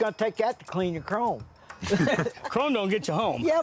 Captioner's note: laughs